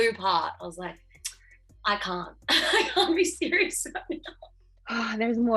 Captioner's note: laughs